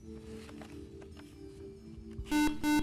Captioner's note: beeping